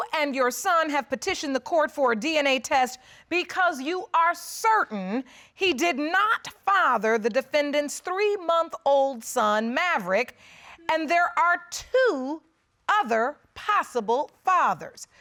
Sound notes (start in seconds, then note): none